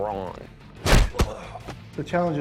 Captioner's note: groans